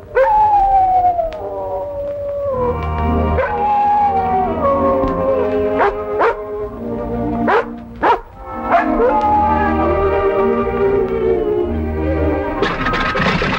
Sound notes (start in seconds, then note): 0.0 howling; 5.5 barking; 10.0 howling